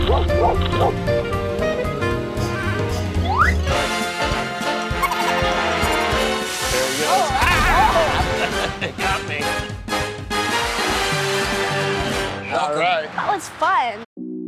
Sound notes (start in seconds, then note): 0.0 dogs bark; 5.0 animal giggling; 7.6 fireworks bang; 14.2 peaceful music